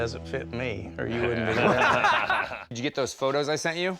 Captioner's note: laughing